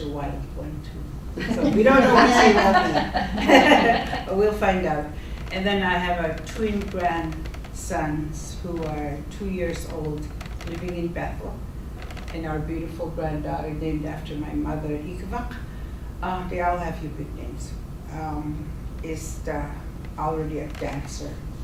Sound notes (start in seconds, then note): 3.3 laughing